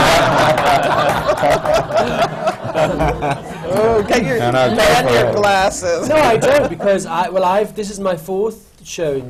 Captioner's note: laughter; applause